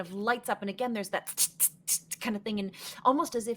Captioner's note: imitates sparking